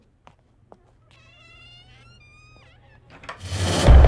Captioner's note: Door closing